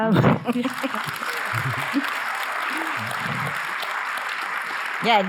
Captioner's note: audience applauding